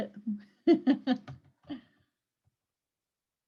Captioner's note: laughs